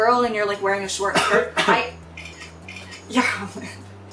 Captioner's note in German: hust